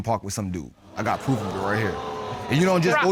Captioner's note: audience gasping